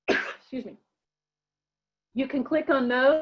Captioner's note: coughing